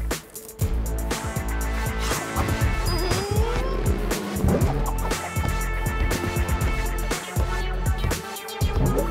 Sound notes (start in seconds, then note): 2.9 whimpering